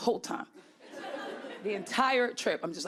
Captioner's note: audience laughing